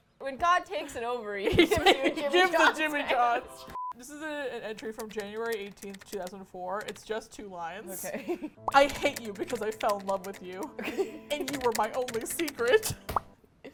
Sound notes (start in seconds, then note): 1.4 laughter; 7.9 laughs